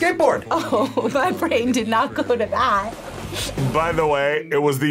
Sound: laughs

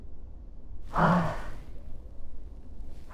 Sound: sighs

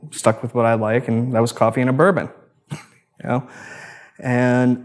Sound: laughs

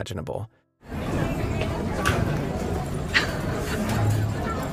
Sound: chattering

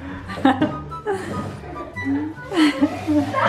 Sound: laughs

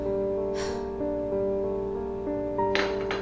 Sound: sighs; gentle piano music

